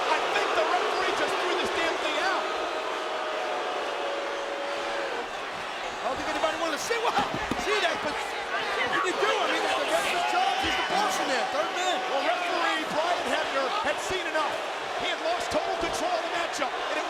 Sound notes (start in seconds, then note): 2.7 audience jeering